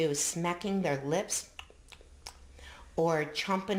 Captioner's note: smacking lips